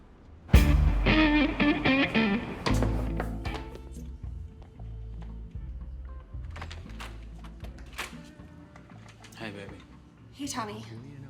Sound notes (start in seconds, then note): 0.5 smooth jazz music; 2.3 knocking on door